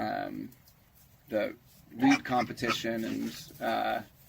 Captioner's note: pigs squealing